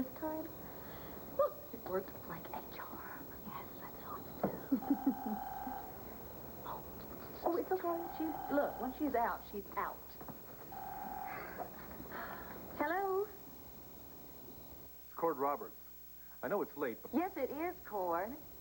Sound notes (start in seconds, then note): 7.1 telephone rings